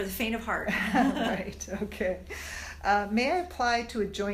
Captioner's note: laugh